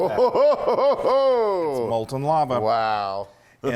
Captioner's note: laugh